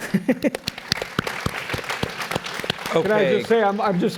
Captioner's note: applause